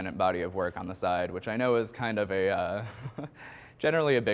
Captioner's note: chuckles